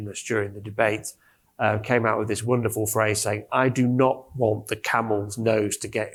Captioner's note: none